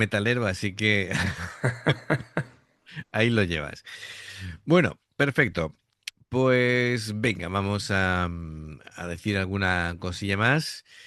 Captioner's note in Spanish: risas